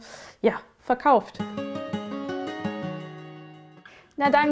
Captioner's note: dreamy sounds